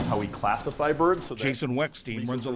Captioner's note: voice-over